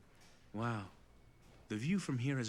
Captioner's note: over comms